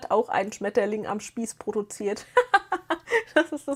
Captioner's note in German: gelächter